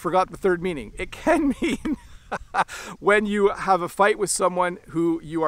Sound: chuckles

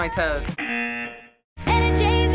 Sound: buzzer

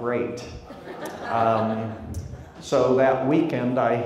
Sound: crowd laughs

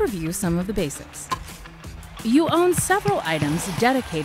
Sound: ball batting

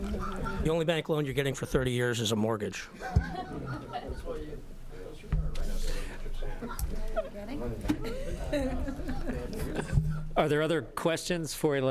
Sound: background chatter

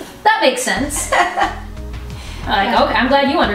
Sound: laughs

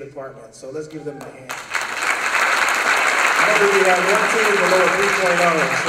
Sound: applause

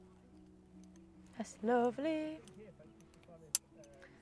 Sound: sing-song

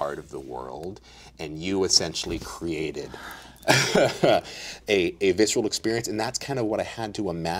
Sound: laughs

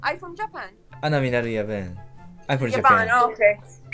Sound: Arabic

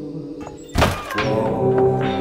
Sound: door squeaks; slow calming music

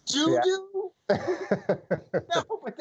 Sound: laughter

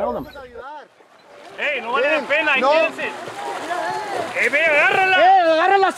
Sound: yelling in foreign language

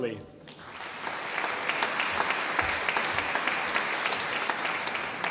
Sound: audience applauding

